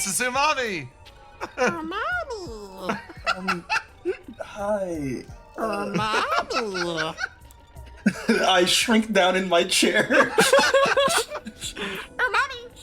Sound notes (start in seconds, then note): 1.3 laugh; 9.7 laughs